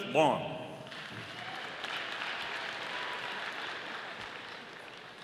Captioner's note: audience applauding